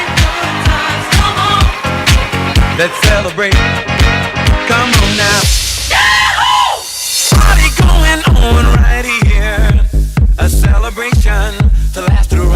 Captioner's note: applause